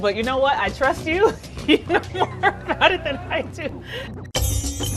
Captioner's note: laughs; upbeat music